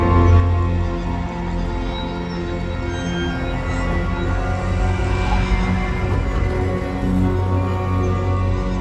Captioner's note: sinister spooky music; slow creaky door; sinister spooky music